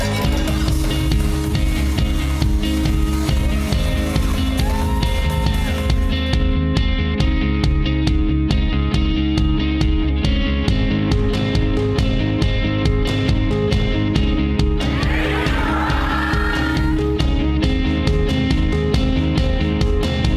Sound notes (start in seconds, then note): 3.8 cheering; 7.1 inspirational music; 14.7 crowd chanting; 17.0 inspirational music